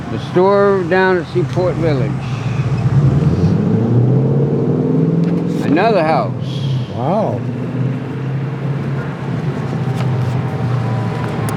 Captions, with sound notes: The store down at Seaport Village. (traffic revving) Another house. - Wow.